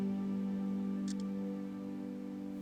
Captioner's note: phone camera clicks